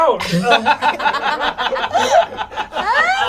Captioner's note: all laugh